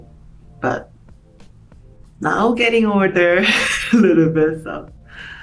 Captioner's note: laughs